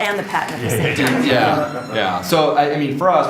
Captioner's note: audience laughs